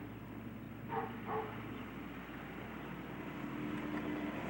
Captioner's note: dog barking